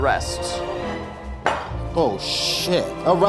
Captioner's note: dough thwacks